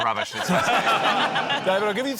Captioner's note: laughter